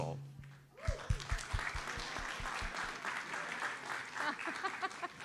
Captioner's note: audience applauds